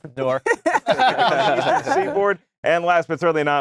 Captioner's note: laughing